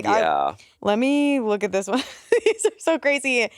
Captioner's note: laughs